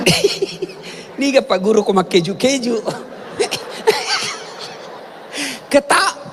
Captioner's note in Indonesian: tertawa